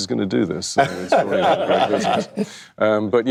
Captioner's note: laughter